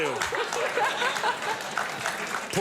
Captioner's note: audience applauds